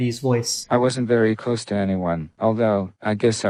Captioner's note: AI Voice